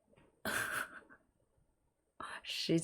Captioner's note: laughs